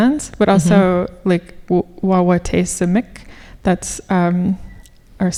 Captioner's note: speaking Ojibwe